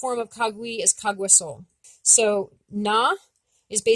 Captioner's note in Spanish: Idioma Abenaki